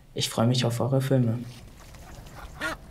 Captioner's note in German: Ruf einer Gans